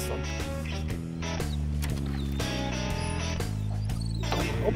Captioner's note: whining